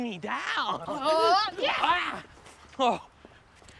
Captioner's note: both grunting